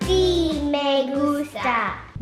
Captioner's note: upbeat music; speaking Spanish